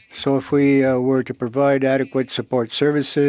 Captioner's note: speaking French